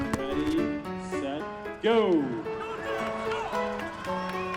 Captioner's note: cheering